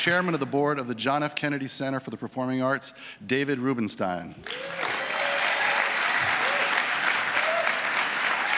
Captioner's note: applause